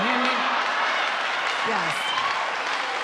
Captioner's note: audience laughing and applauding